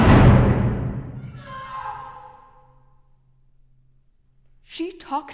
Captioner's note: screams offstage